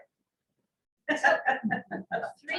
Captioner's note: laughter